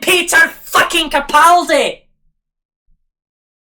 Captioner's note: scottish Accent